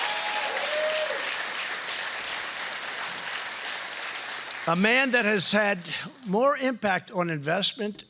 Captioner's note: applause